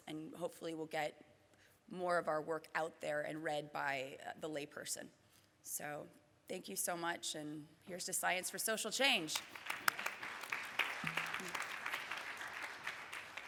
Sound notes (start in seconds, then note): 9.4 audience applause